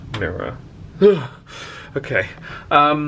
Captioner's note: exclaims